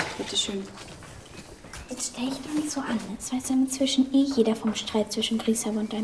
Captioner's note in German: Flüstert